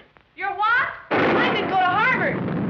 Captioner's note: thunder